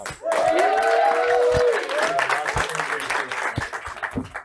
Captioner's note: cheering and applause